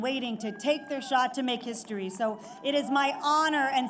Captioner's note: applause